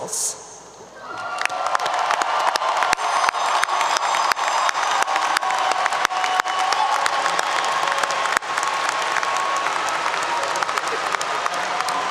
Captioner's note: applause 👏 👏